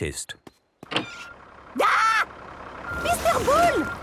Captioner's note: tractor noise